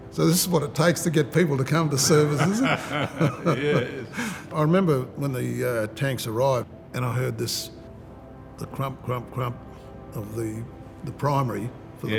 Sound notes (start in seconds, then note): 2.0 laughs